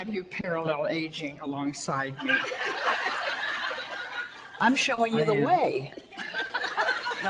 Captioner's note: audience laughter